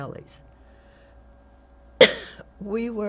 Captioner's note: coughs